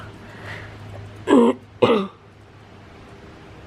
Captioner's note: clears throat